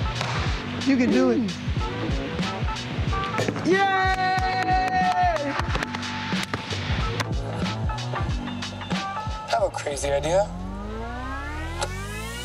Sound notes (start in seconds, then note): 4.0 applauds; 6.7 light music